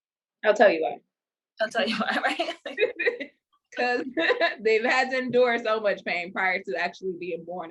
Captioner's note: both laugh